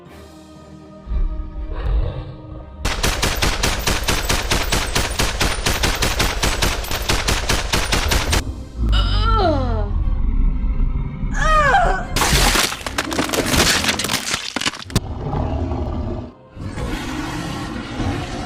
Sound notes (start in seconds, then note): 2.8 gunshots; 13.9 crack